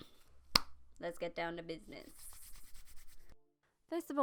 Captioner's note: claps in tiny